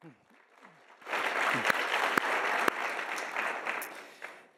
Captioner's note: audience applauding